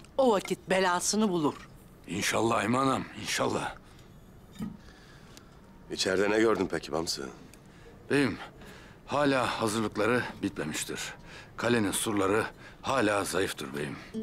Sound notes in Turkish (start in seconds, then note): none